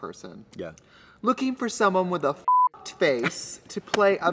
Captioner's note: beep